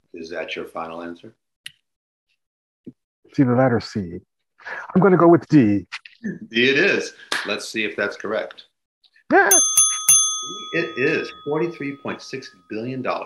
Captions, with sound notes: - Is that your final answer? - Between the letter C, I'm gonna go with D. - D it is. Let's see if that's correct. - Yeah. (ding sounds) - It is $43.6 billion.